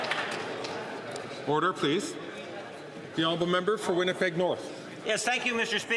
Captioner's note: some Applause